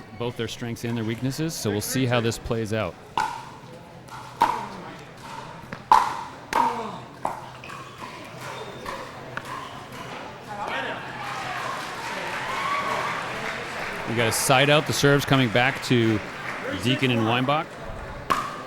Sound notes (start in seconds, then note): 3.1 ball clacking; 6.6 grunting; 10.6 cheering; 18.3 ball clacking